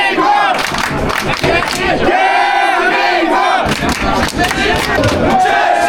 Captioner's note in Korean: 짝짝 짝짝짝 대~~~~~한민국!!